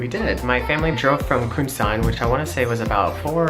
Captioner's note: slurred